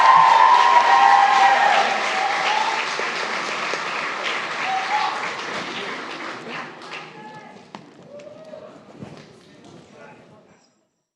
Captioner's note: applause